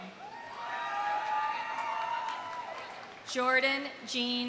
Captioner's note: audience cheering; audience applauding